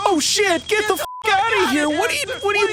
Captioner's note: beep